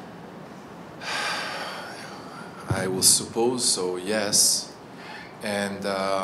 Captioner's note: deep breath